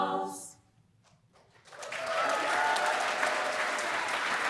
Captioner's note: applause